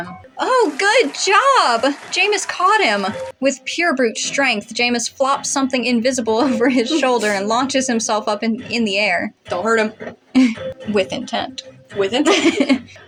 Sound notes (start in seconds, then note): 10.3 chuckle; 11.9 laugh